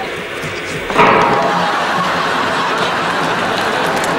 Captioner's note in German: Schießerei